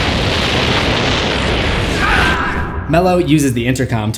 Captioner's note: explosion